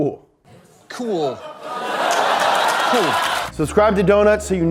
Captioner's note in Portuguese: a audiência ri